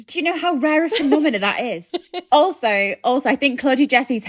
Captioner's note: laughing